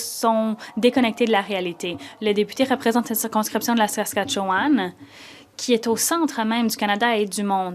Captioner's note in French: voix de l'interprète